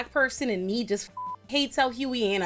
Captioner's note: beep